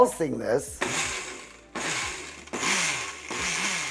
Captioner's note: blender pulsing